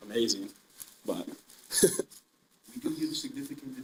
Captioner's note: laughing